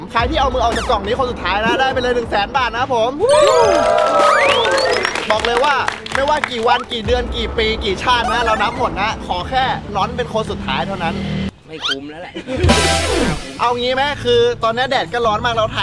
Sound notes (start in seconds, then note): 3.3 applauding; 12.2 chuckles